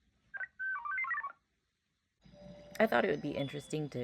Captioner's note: Luna repeats statement in garbled voice